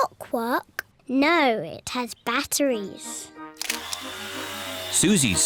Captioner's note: whirring